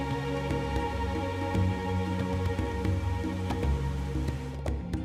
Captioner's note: waterfall